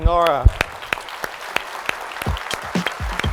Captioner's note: applause